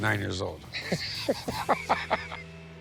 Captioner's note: laughs